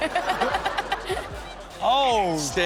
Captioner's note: audience laughs